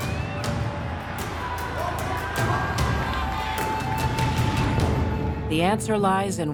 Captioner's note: audience cheering